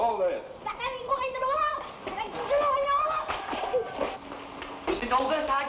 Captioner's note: boy speaking in Tagalog